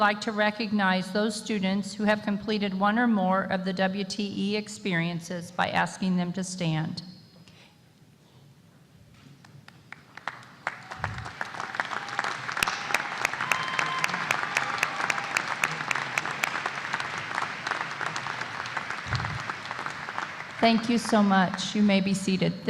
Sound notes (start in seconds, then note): 13.6 applause